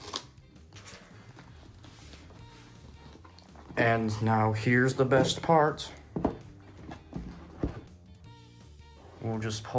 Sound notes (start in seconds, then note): 6.9 box lightly thuds onto table again